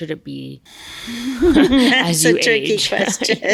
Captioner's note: laughs